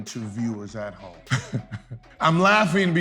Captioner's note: laughing